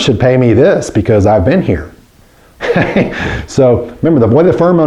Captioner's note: laughs